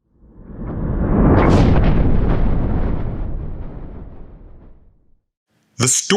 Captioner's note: thunder